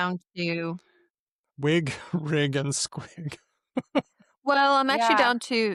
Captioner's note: laughs